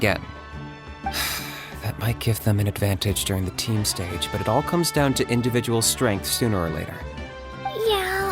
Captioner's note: sigh